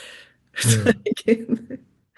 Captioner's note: chuckles